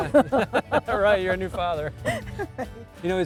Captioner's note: laughter